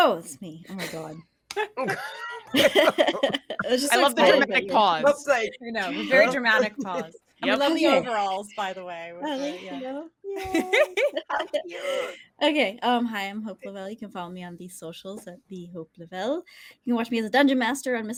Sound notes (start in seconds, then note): 1.5 all laughing